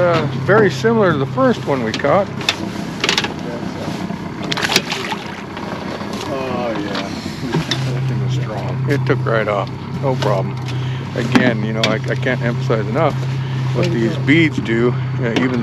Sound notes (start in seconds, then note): 3.8 fish splashing; 6.4 boat engine idling